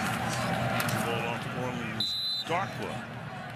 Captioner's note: pa announcement